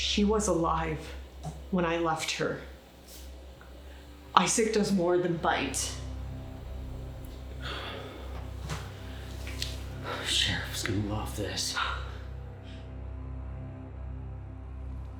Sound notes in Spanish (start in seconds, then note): 7.6 Jonathan suspira